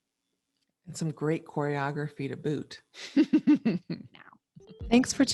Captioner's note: laughs